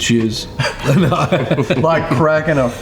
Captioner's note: laughs